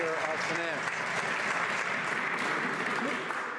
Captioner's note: some Applause